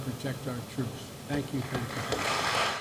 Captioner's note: applause